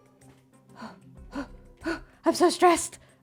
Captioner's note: heavy breathing